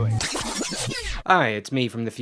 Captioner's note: rewind sound effect